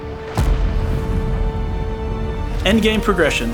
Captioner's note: explosion